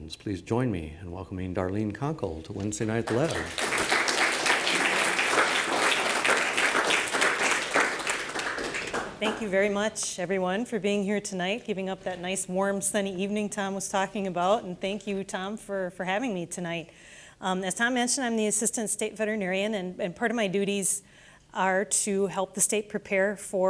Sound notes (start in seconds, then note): 7.8 applause